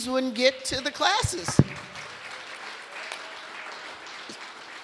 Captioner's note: applause